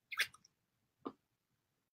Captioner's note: kisses